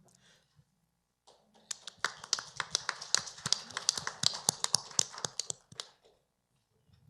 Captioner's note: applause